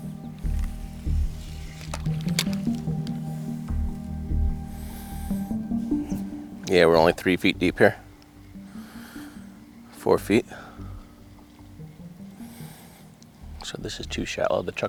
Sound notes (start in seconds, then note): 2.0 equipment rattling